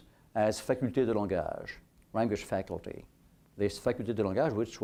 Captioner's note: french